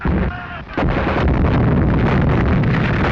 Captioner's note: firing